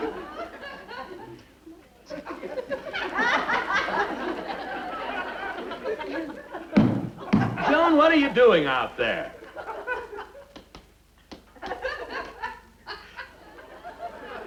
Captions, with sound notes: (Audience laughter) - Joan, what are you doing out there? (Audience laughter)